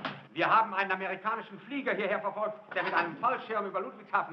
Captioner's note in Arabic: الصوت المنطوق باللغة الألمانية